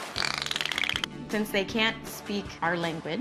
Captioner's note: dolphin emits rapid clicking